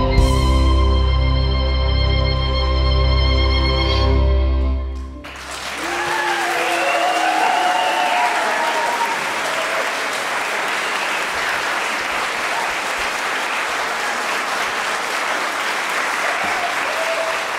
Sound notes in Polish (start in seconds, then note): 4.9 oklaski